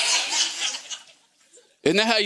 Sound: congregation laughing

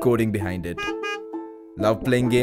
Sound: car horn

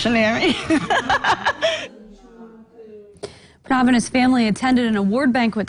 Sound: laughter

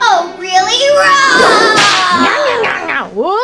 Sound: roaring; loud gnawing

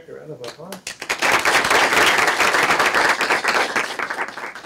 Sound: applause

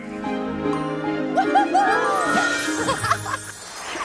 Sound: whooping; giggling; Ms. Tab chuckling

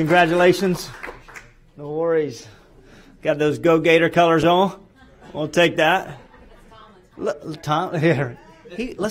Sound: applause

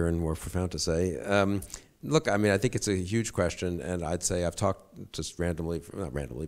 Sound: none

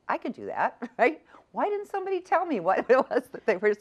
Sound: laughs

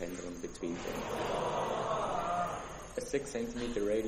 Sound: students gasping

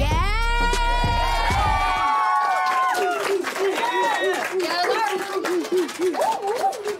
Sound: cheering

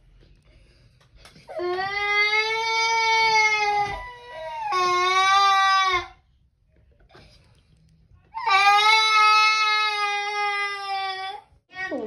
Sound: crying

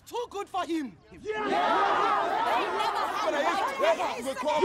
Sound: crowd agreeing

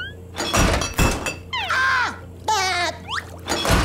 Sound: screaming, laughing

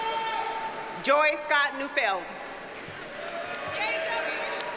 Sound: audience cheers and applauds

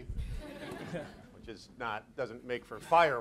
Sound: audience laughs

